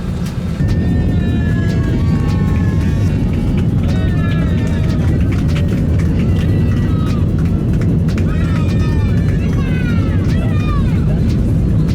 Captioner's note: passengers cheering